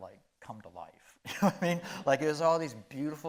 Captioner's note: chuckling